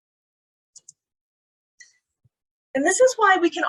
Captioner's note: mouse button clicking